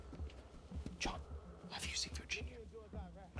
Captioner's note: whispering